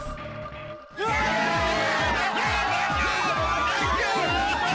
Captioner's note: cheering